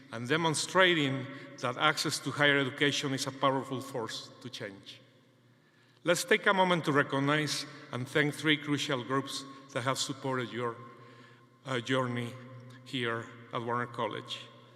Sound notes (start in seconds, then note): none